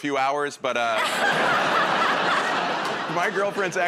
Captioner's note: laughter